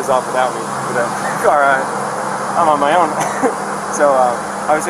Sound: laughing

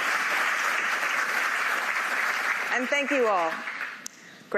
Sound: applause

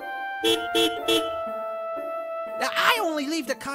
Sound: angry honking

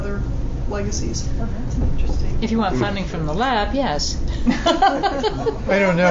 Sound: laughter

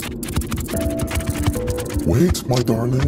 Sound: scorpions scurry

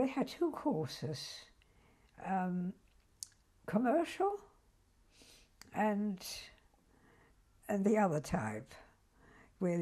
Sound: pauses for 3 seconds

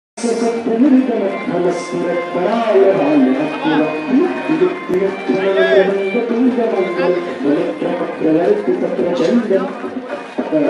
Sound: chanting

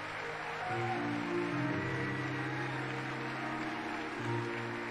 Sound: audience applauding and cheering; soft music

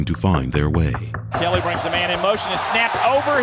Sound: voiceover

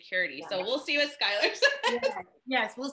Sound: laughs

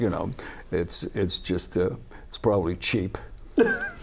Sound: laughter

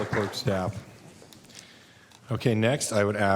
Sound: applause

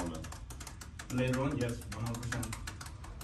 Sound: laud typing

